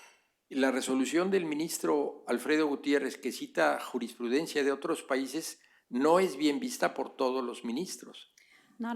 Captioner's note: speaking spanish